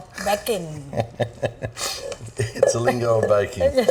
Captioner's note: chuckling